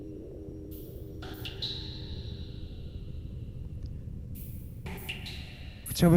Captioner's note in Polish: Powtarzające się elektroniczne odgłosy kapania